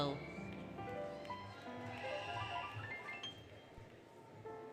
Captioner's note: applause, Cheering, Music